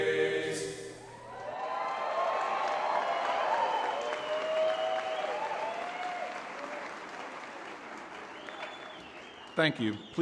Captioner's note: applause